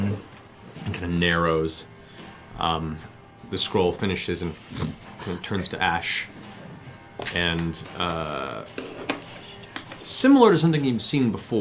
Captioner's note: poof